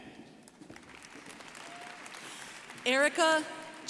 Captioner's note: crowd applauding